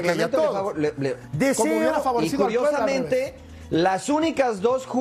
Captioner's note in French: todos hablando